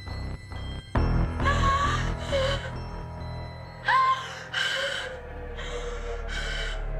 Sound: sinister music; Jenelle breathing heavily

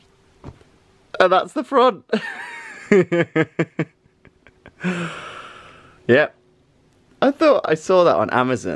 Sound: laughing

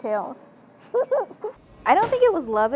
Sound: laughs

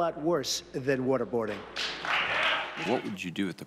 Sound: applause

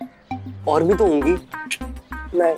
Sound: clicks tongue

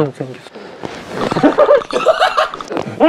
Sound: stomping feet

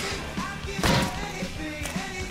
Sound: thunk

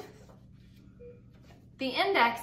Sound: beeping

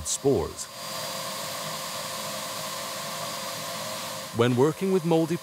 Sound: vacuum cleaner whirring continues

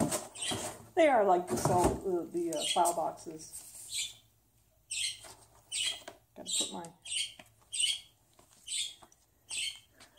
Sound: parakeets chirp

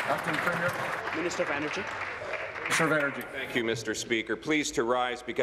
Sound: applause

